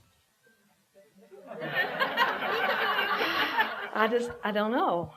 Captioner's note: laughter